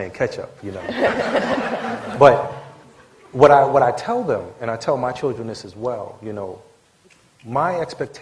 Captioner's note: laughter